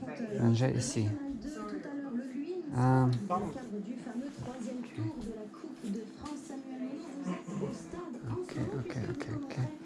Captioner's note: radio in French